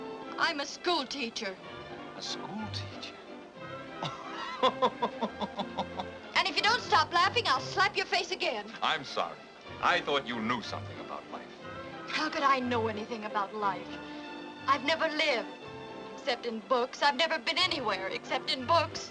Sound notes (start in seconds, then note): 4.0 laughs